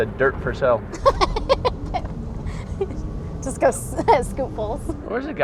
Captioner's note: laughs